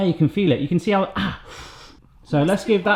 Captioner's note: exhales